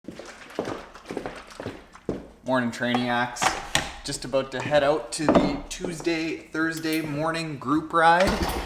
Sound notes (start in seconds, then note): 0.0 water splashing; 0.1 foot steps thumping